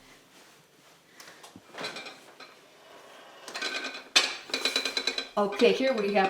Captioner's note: bowl clattering